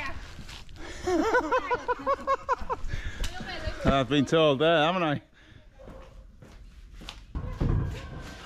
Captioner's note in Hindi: हँसी